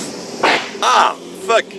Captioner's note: crack